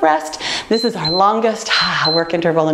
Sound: timer beeps

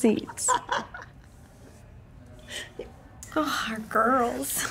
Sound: laughs

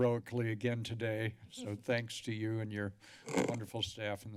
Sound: mic noise

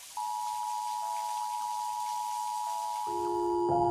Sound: attention signal playing

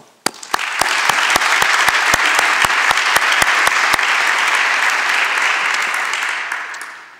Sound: applause

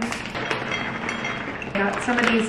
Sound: nuts clicking

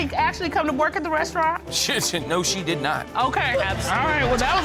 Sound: spluttering

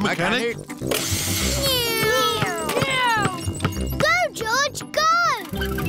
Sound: whirring

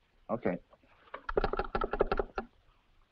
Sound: clicking telephone

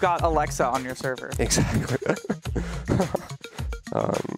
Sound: chuckles

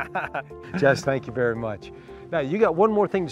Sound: laughter

